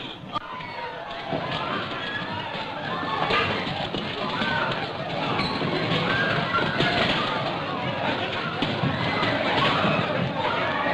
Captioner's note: commotion